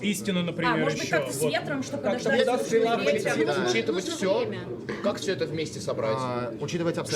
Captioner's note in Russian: откашливается